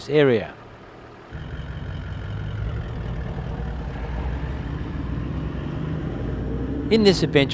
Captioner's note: vehicle sounds